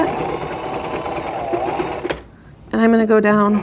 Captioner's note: sewing machine whirring